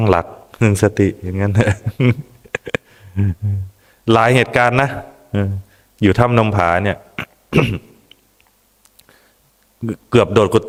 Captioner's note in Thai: เสียงหัวเราะ